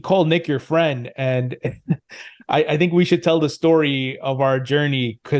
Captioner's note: laughs